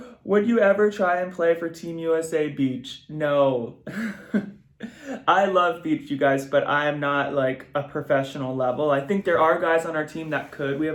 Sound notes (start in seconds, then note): 3.9 giggles